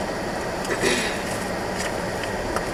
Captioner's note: clears throat